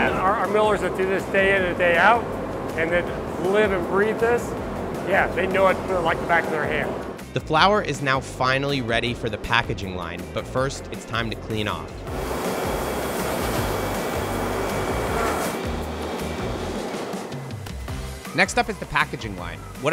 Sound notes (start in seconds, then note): 12.0 air whooshing; 15.9 light music continues